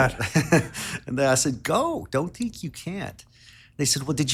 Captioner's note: laughs